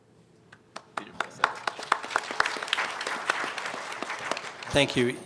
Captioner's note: applause